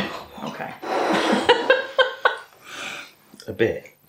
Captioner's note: laffs